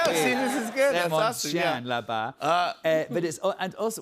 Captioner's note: speaks French